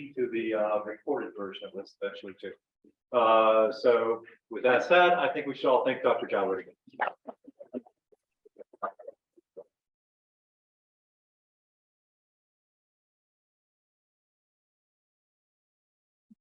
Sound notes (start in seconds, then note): 7.6 audio blurs